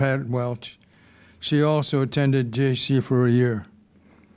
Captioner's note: none